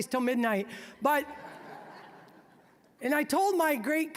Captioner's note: audience laughing